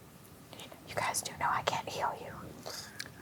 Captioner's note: whispers